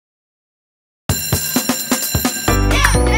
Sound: bell ringing; upbeat music

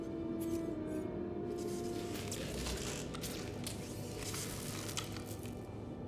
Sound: crackling, sparking

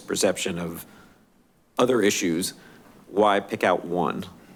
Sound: none

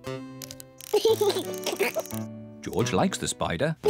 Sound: laughs

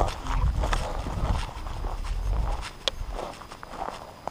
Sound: footsteps thudding

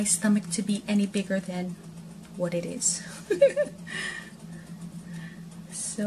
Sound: giggle

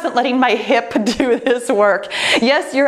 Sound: laughs

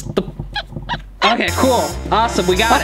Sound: cartoonish squeegee atmospheric

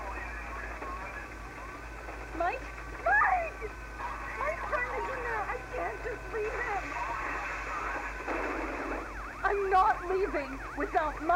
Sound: employee lounge explosion

